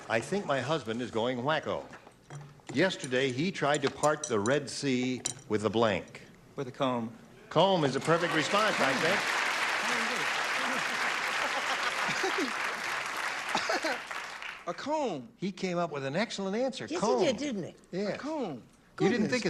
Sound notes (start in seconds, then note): 8.2 clapping; 11.5 laughter